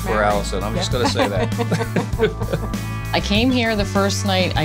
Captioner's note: laughs; wife laughing